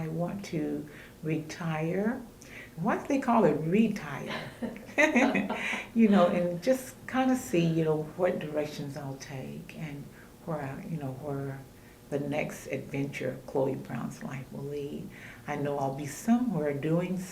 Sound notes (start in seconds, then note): 4.3 laughter